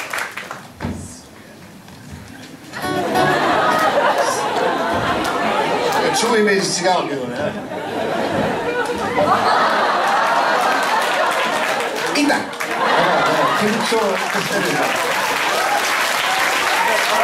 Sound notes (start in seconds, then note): 0.0 applause; 2.8 laughter; 7.4 laughter; 14.2 applause